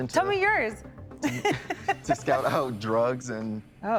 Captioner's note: laughing